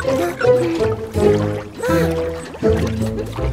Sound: puzzled sigh

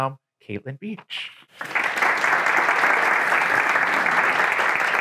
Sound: attendees clapping

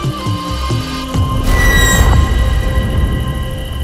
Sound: sandman screeches

